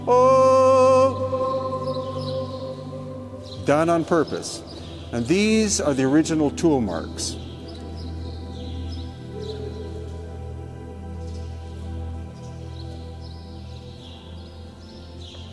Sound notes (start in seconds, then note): 0.8 gentle music continues; 7.7 birds chirping; 7.7 gentle music continues